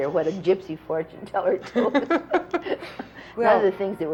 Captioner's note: laughter